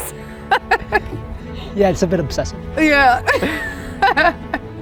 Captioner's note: laughs; laughs